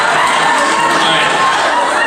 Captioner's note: humans producing noise